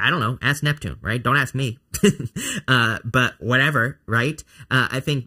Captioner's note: laughs